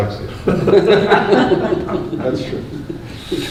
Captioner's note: laughs